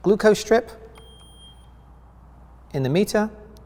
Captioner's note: meter beeps